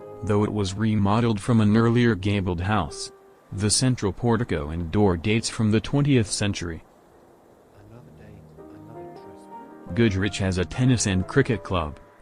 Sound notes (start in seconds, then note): 7.8 old man mumbles